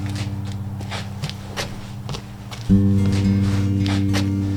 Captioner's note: gritty footsteps